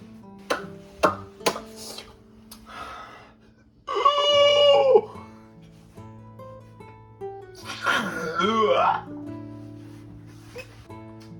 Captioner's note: kissing sounds